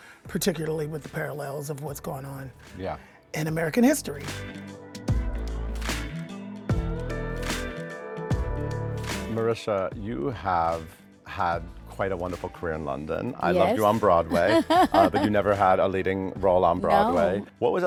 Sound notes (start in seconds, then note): 4.9 chill music continues; 13.5 laughs